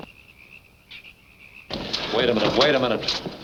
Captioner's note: gun shot; frogs croaking